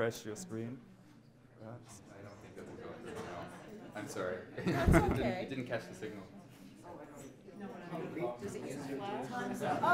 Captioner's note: chatter